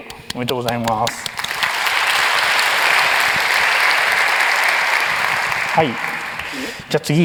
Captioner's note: applause